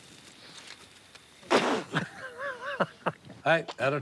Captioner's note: spits; laughs